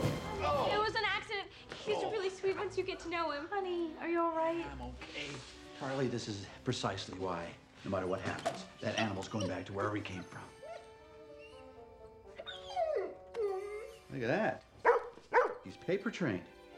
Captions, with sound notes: It was an accident. He's really sweet once you get to know him. - Honey, are you all right? - Yeah, I'm OK. Carly, this is precisely why, no matter what happens, that animal's goin' back to wherever he came from. [dog whimpering] Look at that. He's paper-trained.